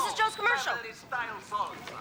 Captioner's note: on TV